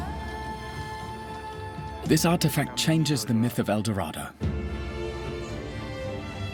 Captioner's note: Spanish dubbed into English